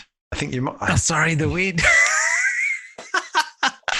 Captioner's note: laughs